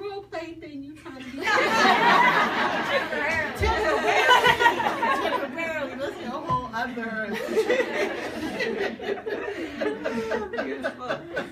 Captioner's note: people laugh